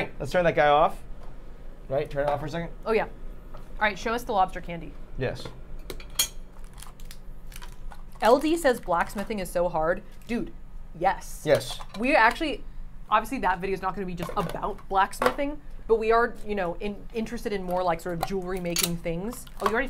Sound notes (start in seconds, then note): 6.3 lid thudding; 7.4 wrapper rustling